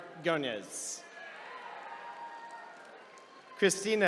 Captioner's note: attendees cheering